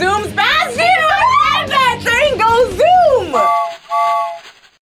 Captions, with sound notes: - It zooms past you! I said that, train goes zoom! (train horn whistles)